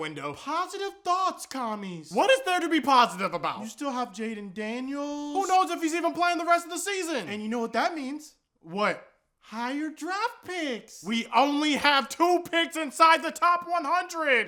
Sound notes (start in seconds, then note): none